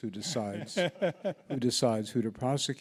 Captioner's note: laughs